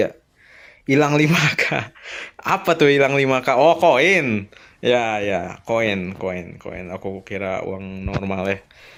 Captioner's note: laughs